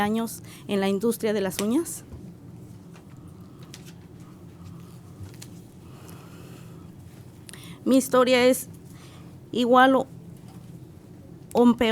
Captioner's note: speaking spanish